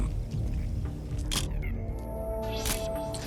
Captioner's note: camera shuttle click